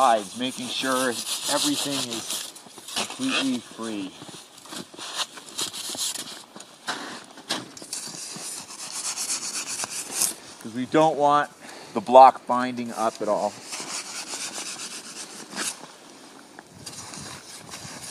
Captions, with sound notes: making sure everything is completely free. (saw crunching) Because we don't want the block binding up at all. (saw crunching)